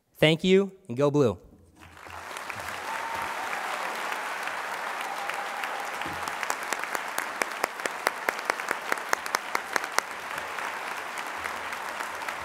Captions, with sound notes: thank you, and go blue. [ Applause ]